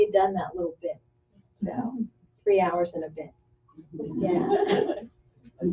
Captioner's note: laughter